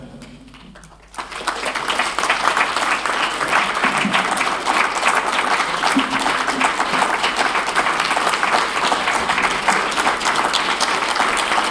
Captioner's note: applause